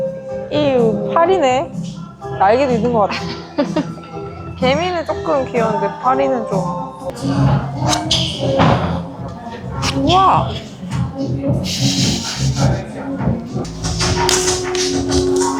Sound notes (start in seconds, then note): 8.1 whip sound